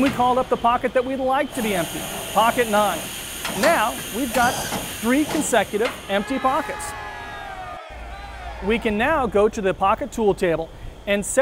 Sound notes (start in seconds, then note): 6.0 men cheering